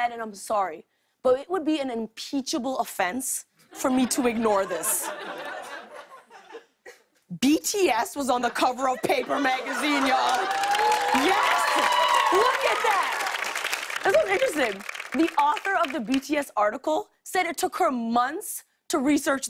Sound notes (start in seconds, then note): 4.8 light laughter; 9.6 cheers and applause